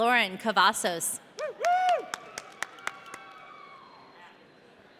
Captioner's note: audience cheering